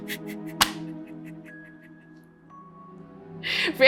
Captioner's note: laughs